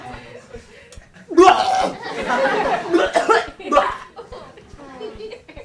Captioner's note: makes gagging noise